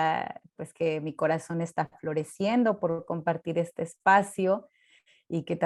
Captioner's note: Spanish